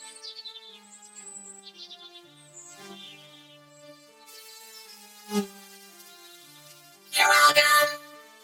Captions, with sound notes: [sizzling] -You're welcome!